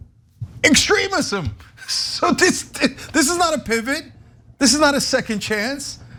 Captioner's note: laugh